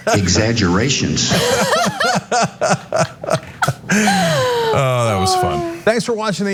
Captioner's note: laugh